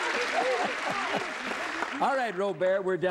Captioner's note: applause